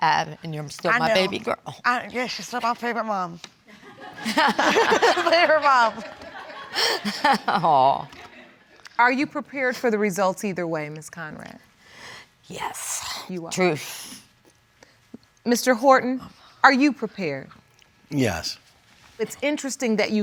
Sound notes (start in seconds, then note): 5.8 laughing; 13.8 exhales